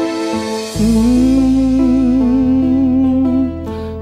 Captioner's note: humming